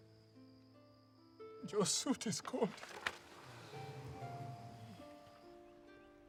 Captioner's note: sighs of sympathy